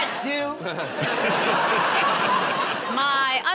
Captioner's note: laughter